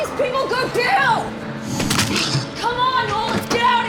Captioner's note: bones cracking